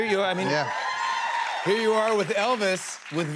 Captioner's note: cheers and applause